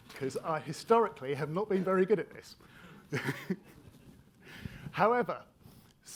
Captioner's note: laughs